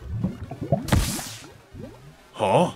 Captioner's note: lightning